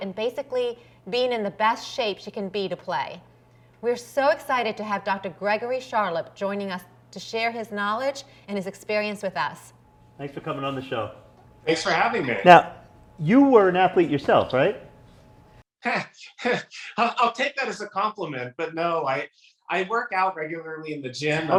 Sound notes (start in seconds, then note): 16.3 chuckles